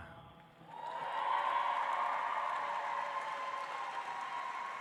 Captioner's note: audience applauds